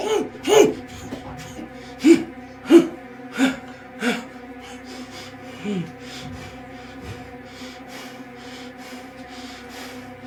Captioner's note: Gerry grunts